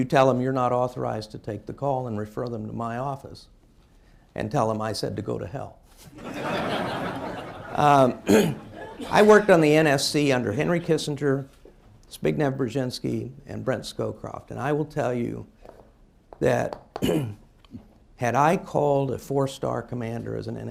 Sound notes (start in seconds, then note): 6.1 laughter